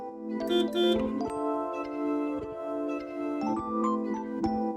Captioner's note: bus honks; gentle, dreamy music